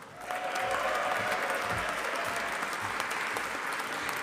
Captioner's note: audience applauding